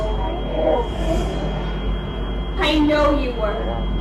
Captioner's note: whoosh sound